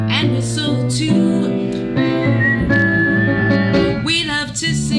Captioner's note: whistling